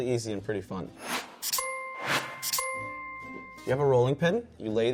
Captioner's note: bell dinging